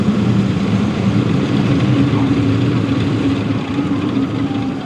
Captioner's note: aircraft engine